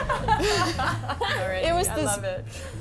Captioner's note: group laughing